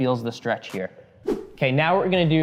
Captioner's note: air whooshing